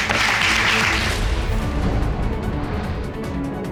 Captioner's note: applauding